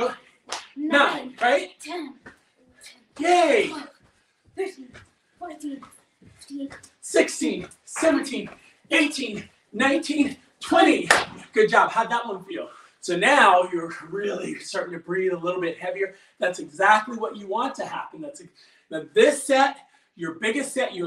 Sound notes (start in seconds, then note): 11.0 claps; 13.7 huffs out air